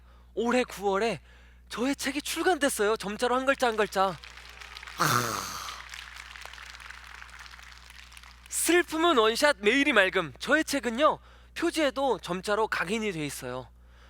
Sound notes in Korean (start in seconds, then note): 5.1 박수 소리